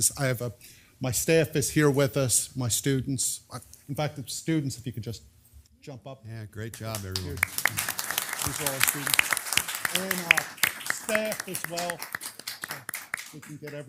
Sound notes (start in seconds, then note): 6.8 applause